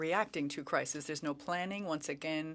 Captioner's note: speaking French